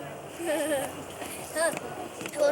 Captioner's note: giggles